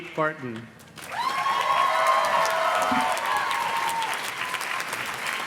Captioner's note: audience cheers and claps